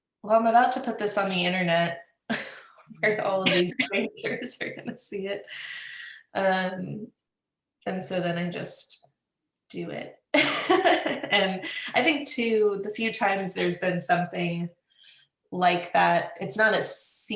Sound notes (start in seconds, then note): 7.1 laughs